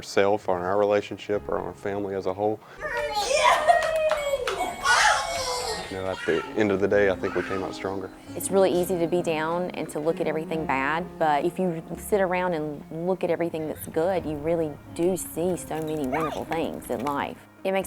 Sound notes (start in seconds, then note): 4.7 chuckles